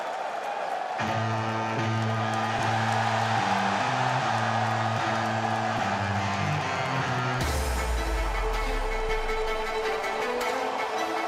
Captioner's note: crowd chatter